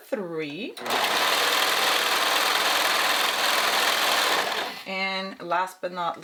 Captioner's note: sewing machine whirring